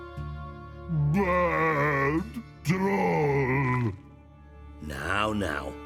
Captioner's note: dejectedly